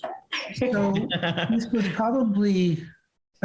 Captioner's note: Robert laughs